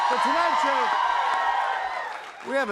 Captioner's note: cheers and applause